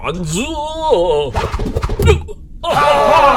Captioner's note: knife whistling, thunk; Klingon cheers and laughter